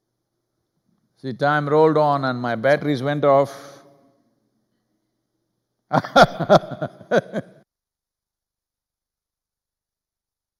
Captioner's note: laughs; audio cut